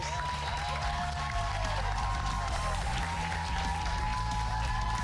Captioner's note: cheers and applause